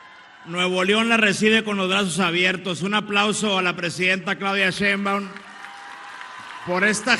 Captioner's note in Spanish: aplausos